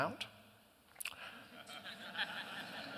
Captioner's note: laughter